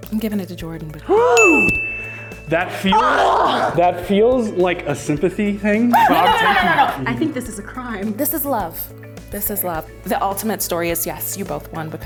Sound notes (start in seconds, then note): 1.2 gasp; 1.4 bell dings; 2.6 exclaims